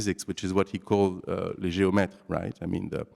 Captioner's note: non-english